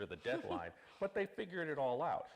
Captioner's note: laughing